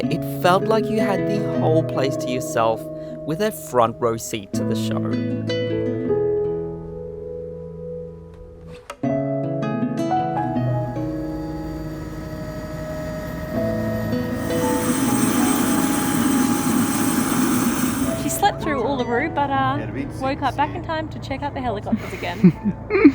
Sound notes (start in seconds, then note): 4.9 slow piano music; 10.7 engine whirring; 14.7 blades whirring